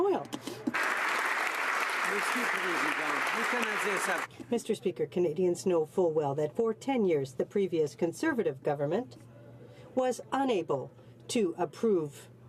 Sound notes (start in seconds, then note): 3.7 some Applause